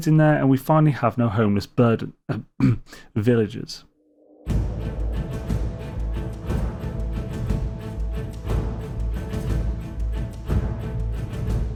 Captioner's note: cough